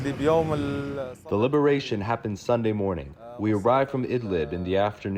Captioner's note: through translator